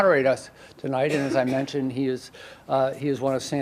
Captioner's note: audience member coughs